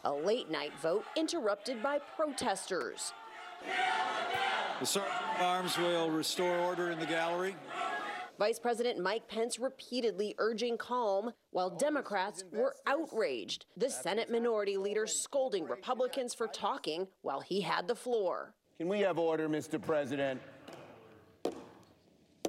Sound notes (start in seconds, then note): 9.1 chanting "kill the bill"